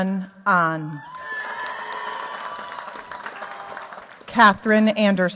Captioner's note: cheers, applause